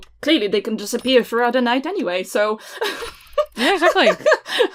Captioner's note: laughs